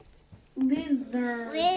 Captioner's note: indistinct chatter